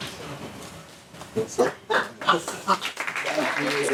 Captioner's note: laughing